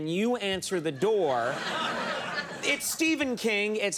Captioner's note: audience laugh